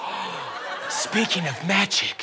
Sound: gasps

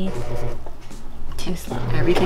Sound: machine humming

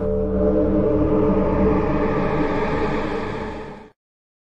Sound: eerie Sounds

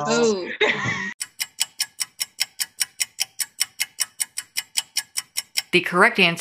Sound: clock ticking

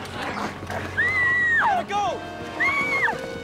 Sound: screaming

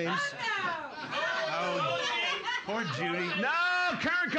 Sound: audience shouting

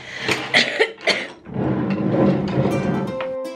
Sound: paintbrushes clattering; jar sliding

